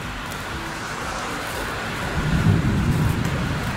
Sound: wind blowing

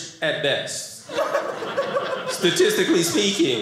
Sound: audience laughing

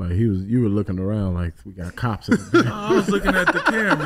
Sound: laughs

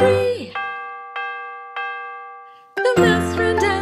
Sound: dell dings

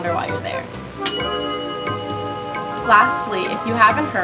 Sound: bell dings

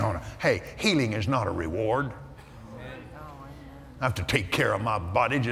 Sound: audience Agrees

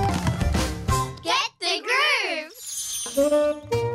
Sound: kids call out

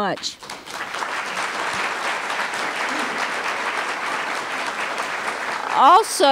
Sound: applause

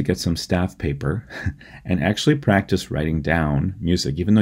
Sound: laughter

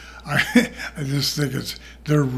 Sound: laughs

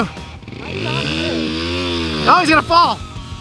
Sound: dirt bike engine revving drowns out

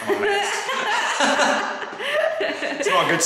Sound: both laughing

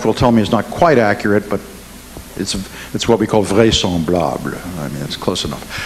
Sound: speaks in foreign language

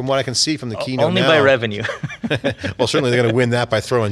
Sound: laughs

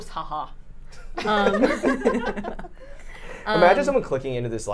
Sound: all laughing

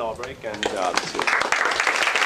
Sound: applause

